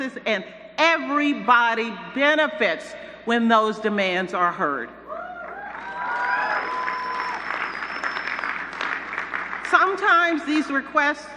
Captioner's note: cheers